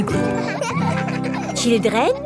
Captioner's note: children laughing